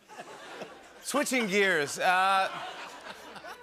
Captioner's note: laughter